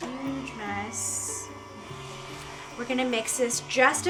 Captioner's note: mixer whirring